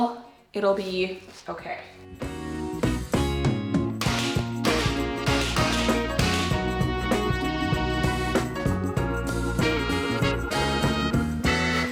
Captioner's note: clanging